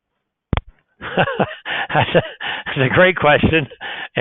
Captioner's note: laughs